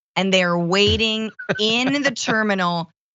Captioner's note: laugh